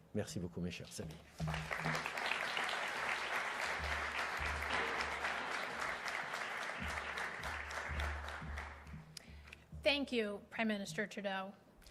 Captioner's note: applause